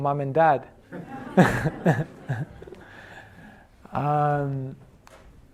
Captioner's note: laughs